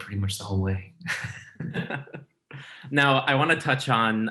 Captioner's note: laughing